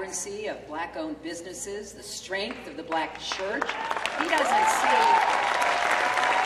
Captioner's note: clapping